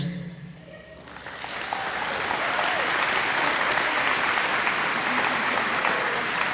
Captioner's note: applause